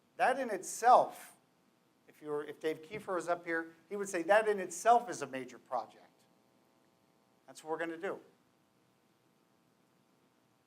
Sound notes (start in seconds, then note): none